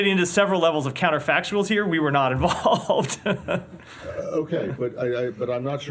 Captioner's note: laughter